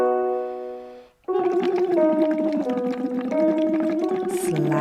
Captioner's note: descending piano scales; humming continues